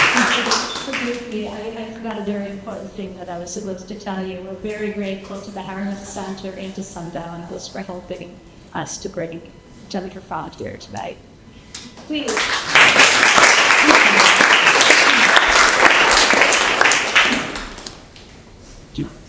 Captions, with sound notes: - Thank you. So briefly, I forgot a very important thing that I was supposed to tell you. We're very grateful to the Harriman Center and to Sundial House who has been helping us to bring Jennifer Croft here today. Please. (audience clapping)